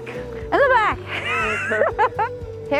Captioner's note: laughter